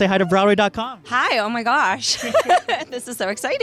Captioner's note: laughs